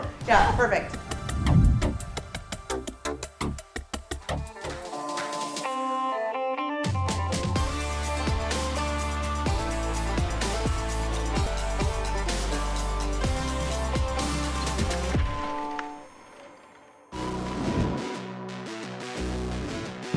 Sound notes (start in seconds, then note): 0.0 tense music; 5.0 upbeat country music; 14.4 door rattling; 17.0 intense music